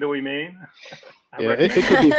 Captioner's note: laugh